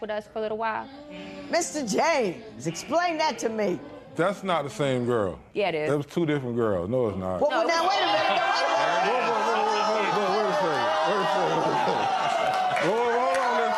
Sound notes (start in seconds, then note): 9.4 spectators yelling